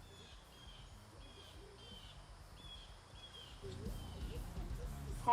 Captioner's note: birds chirping